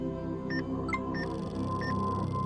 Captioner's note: EKG machine beeping; electronic chime